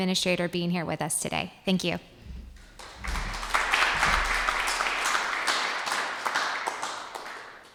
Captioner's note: applauses